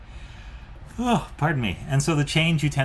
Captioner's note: yawns